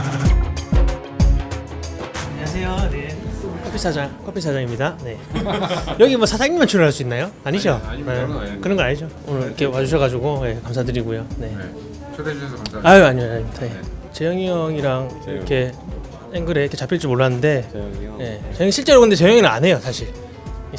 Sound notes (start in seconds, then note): 5.2 laughter